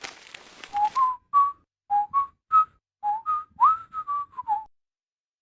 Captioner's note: whistling